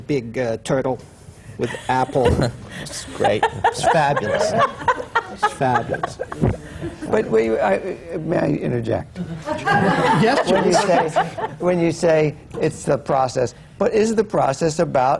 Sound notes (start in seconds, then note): 1.7 laughs; 9.2 laughter